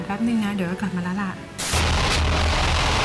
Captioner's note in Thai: เสียงโทรทัศน์